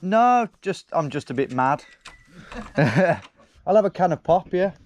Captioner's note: chuckles